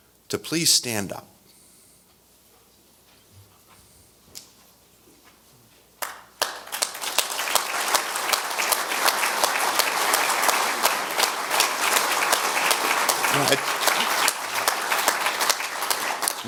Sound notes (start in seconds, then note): 6.3 audience applause